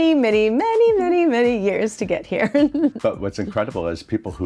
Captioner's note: chuckles